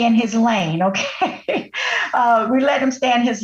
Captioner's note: laughing